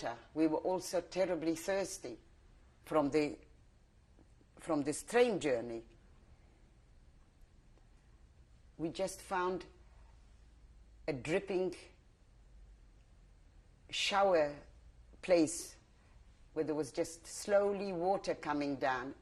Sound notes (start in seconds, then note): 5.7 pauses for 3 seconds